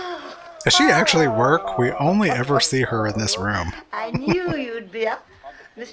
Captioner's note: chuckling